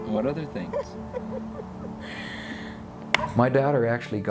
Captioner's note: laughs